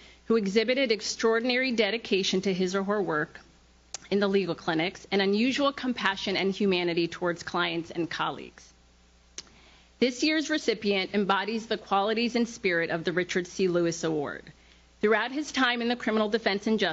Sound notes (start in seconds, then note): none